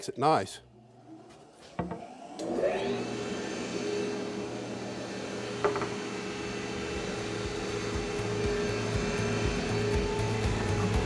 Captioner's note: power tool humming with upbeat banjo music